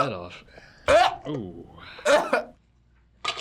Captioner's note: gagging